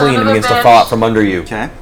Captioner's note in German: keucht auf